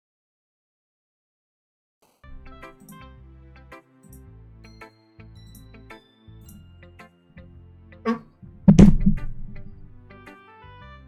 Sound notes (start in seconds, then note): 8.0 choaking on realisation